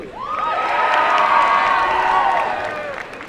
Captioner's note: cheering